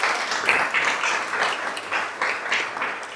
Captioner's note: applause